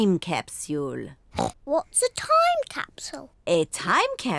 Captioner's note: oinks